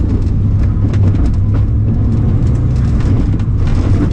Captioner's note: engine rumbling